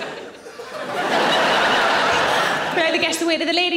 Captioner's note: audience laughing